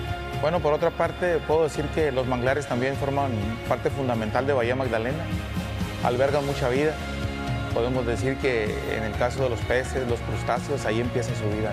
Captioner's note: speaking spanish